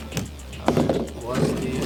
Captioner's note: chair slams